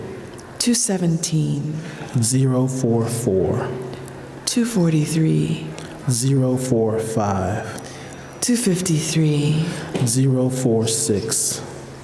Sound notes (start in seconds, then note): none